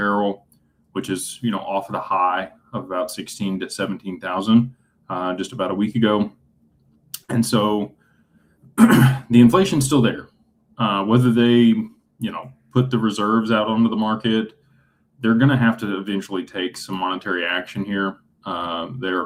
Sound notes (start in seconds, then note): 8.7 clears throat